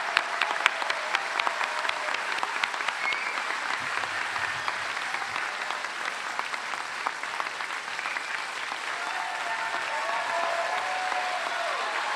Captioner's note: applause